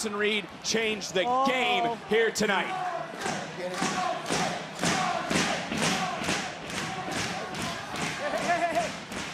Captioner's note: crowd chanting